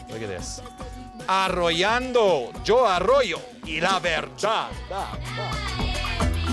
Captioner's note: speaks spanish